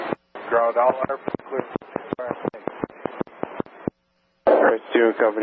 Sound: radio breaking up

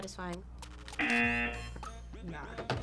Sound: buzzer rings

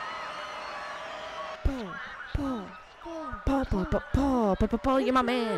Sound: chanting Paul's name

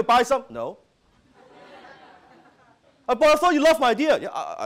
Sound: audience laughing

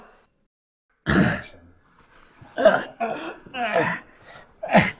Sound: Mr. Libson grunts; Mr. Libson groans

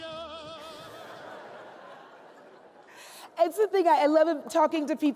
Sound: laughs

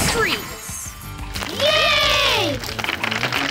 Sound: cheering

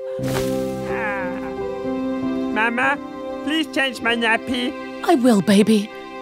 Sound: Turtle Man sighs happily

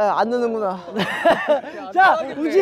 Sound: hahaha

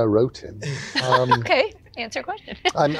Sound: laughs

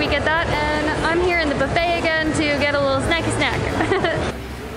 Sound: laughs

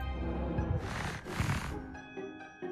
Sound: bro sniffin

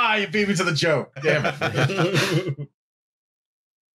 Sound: laughter

